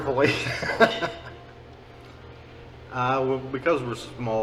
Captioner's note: laughing